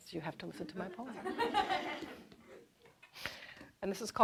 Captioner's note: audience laughing